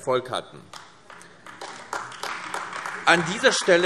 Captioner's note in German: Beifall AfD